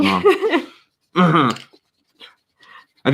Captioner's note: laughing